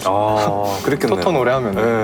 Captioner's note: laughs